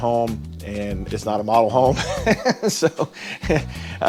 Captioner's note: laughs